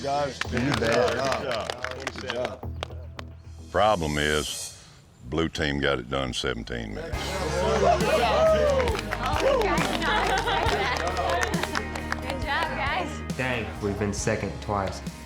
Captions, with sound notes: [APPLAUSE] PROBLEM IS... BLUE TEAM GOT IT DONE IN 17 MINUTES. [CHEERING, APPLAUSE] GOOD JOB, GUYS. DANG, WE'VE BEEN SECOND TWICE.